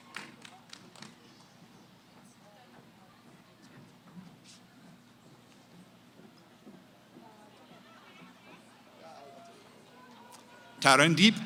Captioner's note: cheering; background conversations